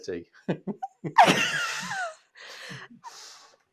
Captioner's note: laughing